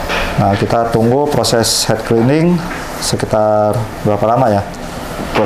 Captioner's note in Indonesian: suara mesin printer